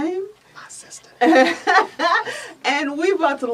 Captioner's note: whispers